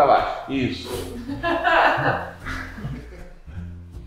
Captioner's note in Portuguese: risadas